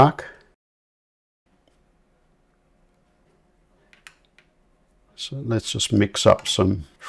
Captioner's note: silence